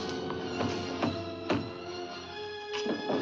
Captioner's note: suspenseful music; banging on door; suspenseful music